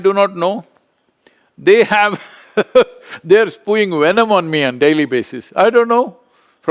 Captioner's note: laughs